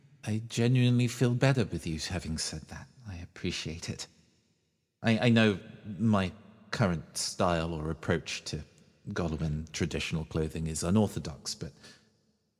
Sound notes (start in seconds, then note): none